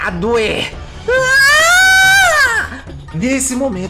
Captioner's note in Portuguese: Grito de dor